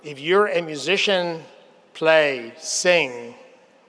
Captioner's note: none